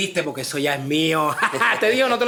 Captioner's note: laughs